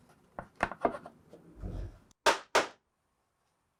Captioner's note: board tapping; hammer tapping